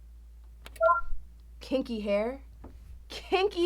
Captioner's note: sound board beeps